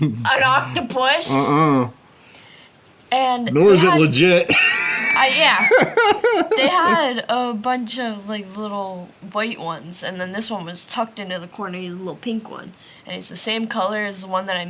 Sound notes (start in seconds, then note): 4.4 laughs